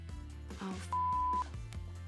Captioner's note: beep